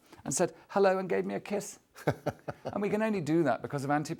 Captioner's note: laughs